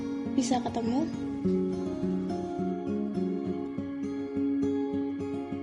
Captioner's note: none